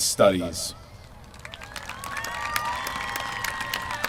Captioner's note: applause